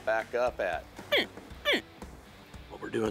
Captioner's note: imitating baby alligator